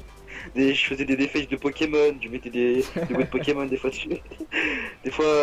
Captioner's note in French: Rire; Rires